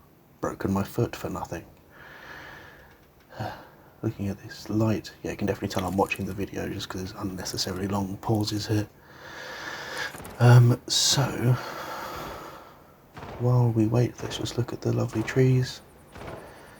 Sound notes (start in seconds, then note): 3.3 sigh